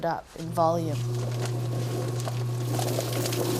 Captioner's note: tub whirring